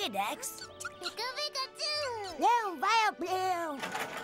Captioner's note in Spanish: emocionado